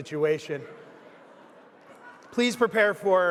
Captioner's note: audience laughing